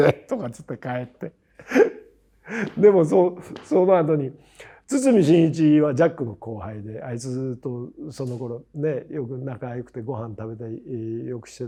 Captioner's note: laugh